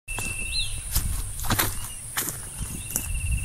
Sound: footsteps

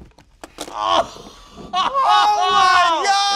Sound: exclaiming

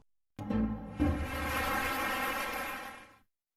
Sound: applause

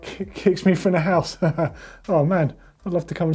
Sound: laughs

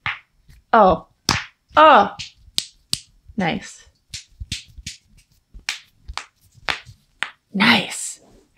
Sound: sound of knuckles cracking

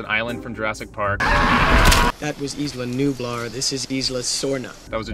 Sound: screaming

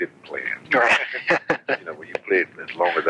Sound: laughs

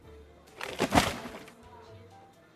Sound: tree crunches

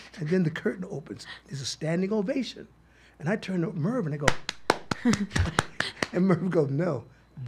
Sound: claps

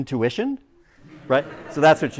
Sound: laughter

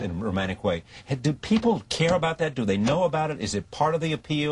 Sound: pounds table

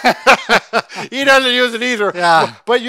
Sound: laughs

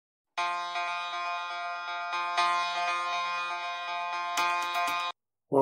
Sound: alarm Sound

